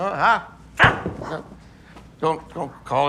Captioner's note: audience gasp